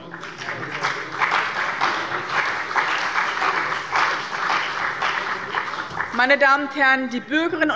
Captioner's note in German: Beifall bei dem BÜNDNIS 90/DIE GRÜNEN und der CDU